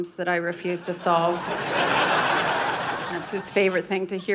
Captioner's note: audience laughing